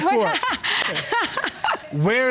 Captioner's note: laughing